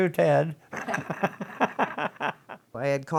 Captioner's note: laughs